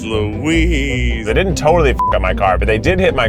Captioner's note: beeps